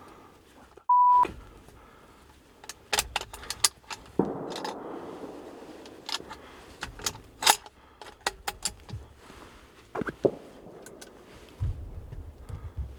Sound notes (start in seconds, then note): 3.8 gun racking